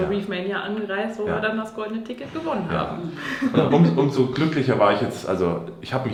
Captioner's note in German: gelächter